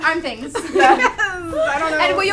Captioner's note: women laughing